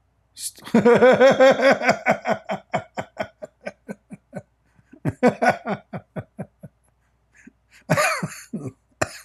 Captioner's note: Ketawa